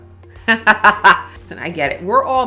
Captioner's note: laughs